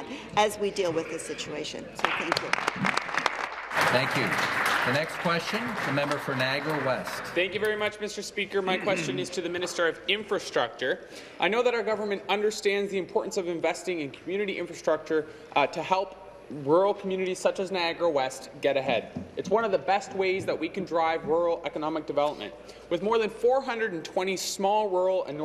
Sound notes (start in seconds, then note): 5.5 applause